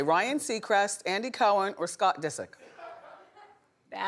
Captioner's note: audience laughing